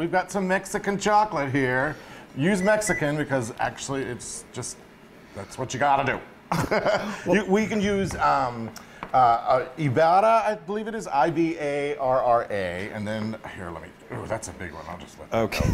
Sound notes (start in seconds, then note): 6.5 laugh